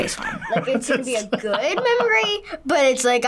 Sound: laughs

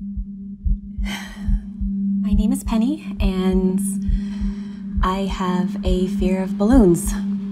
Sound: sighing

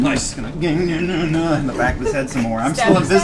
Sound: grunts

